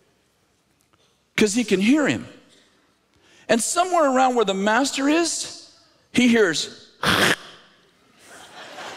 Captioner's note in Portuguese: cuspir